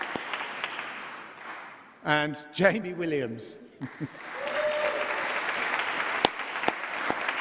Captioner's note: applause